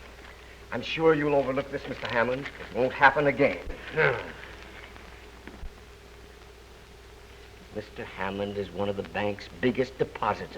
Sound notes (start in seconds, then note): 3.6 grunting